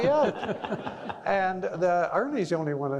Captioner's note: all laughing